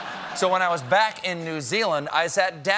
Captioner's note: laughter